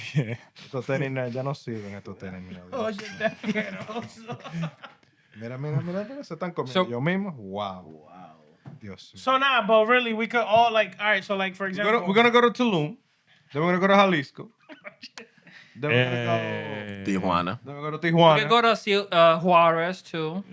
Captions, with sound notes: Yeah. I don't see you in a tutorial. Oh, you're definitely not. (Speaking Spanish) So now, but really, we could all like-- all right, so like for example-- We're going to go to Tulum. Then we're going to go to Jalisco. Then we're going to go-- Tijuana. We're going to go to Juarez too.